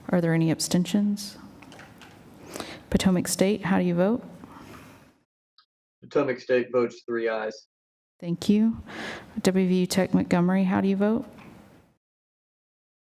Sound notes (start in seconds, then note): 1.8 silence